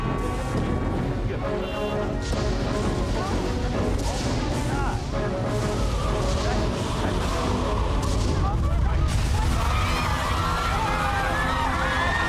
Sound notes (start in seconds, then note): 2.8 indistinct chatter; 8.4 crowd screaming